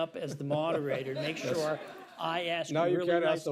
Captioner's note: laughter